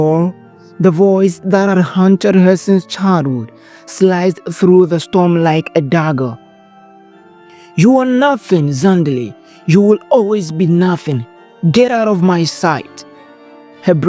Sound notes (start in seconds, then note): 7.8 Stepmother’s Voice – Cold, Heartless